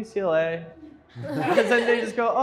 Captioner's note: everyone laughs